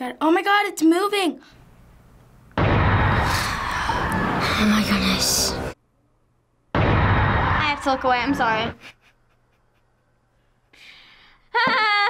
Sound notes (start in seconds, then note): 2.7 screaming; 3.4 sighs; 8.6 laughs